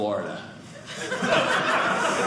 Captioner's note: audience laughing